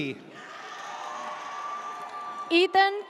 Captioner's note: audience cheers